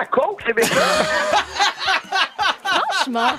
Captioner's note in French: rires